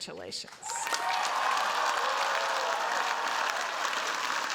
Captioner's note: cheers, applause